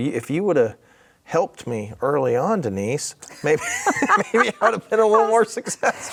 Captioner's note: laughs